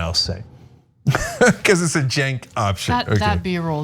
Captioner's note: laugh